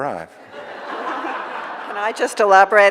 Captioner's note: audience laughing